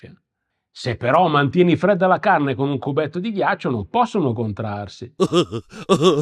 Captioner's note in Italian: risate